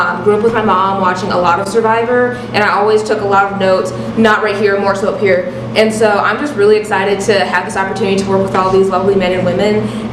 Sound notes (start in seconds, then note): none